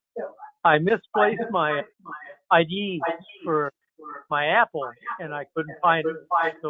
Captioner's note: laughs